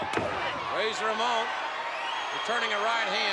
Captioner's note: spectators cheering